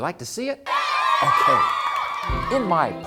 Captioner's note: cheering!